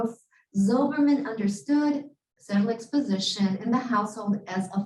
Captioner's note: Hebrew